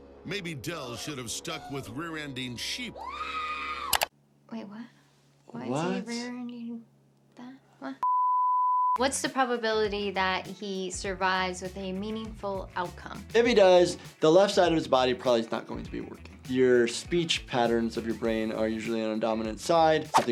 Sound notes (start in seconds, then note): 8.3 graphic beeping